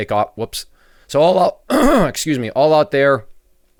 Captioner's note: coughs